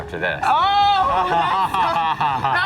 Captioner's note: laughs